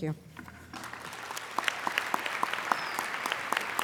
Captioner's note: applauding